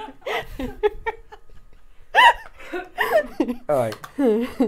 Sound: laughs

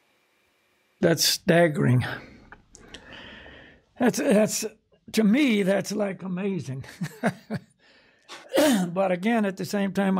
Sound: laughs

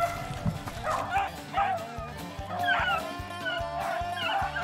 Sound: dogs barking

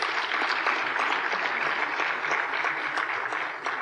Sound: applause

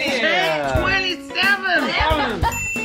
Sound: laughter

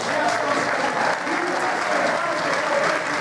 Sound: applause

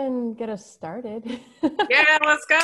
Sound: laughs

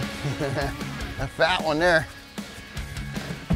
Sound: chuckling

